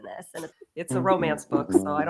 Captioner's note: laughs